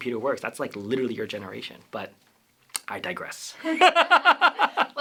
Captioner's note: laughter